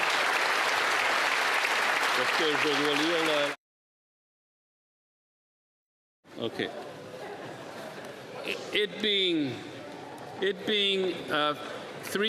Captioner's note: applause